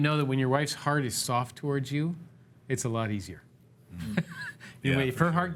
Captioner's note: sighs